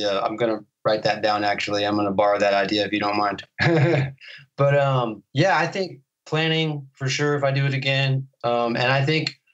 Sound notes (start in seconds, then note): 3.5 laughter